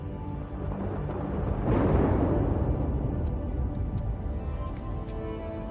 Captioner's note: thunder